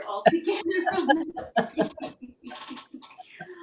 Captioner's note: laughing